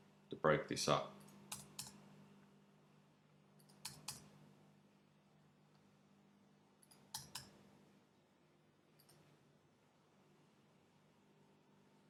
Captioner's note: clicking sounds